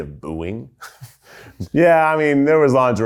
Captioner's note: people in the background laughs happily